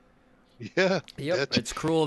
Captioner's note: laughs